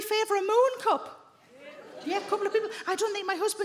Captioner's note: women murmur